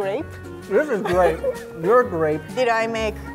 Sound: laughing

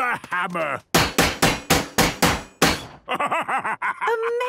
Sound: metallic bashing

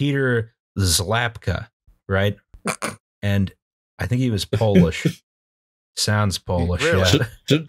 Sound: laughs at his name

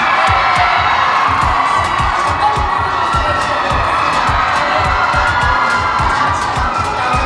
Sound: head up on the red carpet with Thailand fans cheers

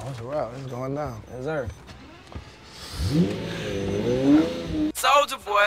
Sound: car revs up

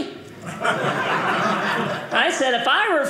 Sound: audience laughing

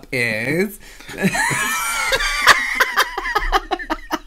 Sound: hysterical Laughter

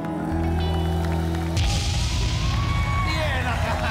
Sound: audience cheering

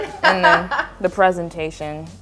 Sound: laughing

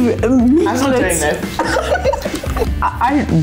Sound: laughing

